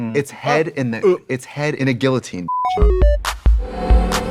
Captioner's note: beeping; bright electronic music